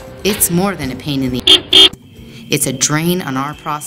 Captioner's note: sound effect: car honking